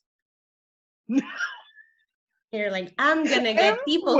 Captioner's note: laughing